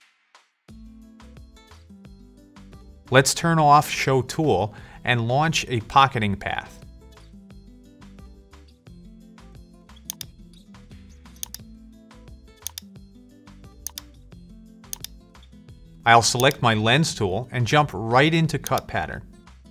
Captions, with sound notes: (upbeat music) Let's turn off show tool, and launch a pocketing path. (upbeat music) (mouse clicks) I'll select my lens tool and jump right into cut pattern.